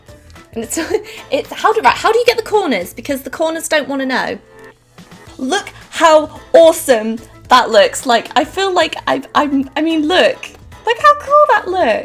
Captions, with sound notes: *laughs* How do you get the corners because the corners don't want to know? Look how awesome that looks like, I feel like I, I mean look, look how cool that looks!